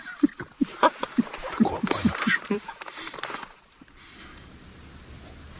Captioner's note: laughter